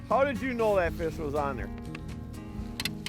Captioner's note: voiceover